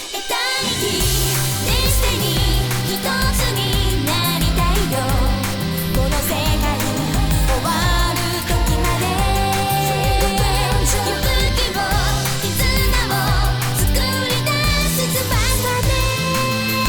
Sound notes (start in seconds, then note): none